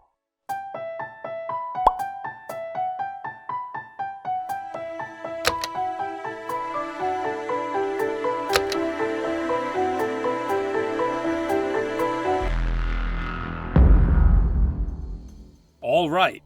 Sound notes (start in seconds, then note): 0.1 upbeat montage music; 12.1 music turns serious; 13.8 boom